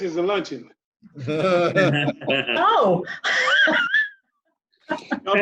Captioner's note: laughter and chatter